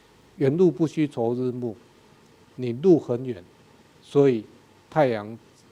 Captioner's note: speaking in a foreign language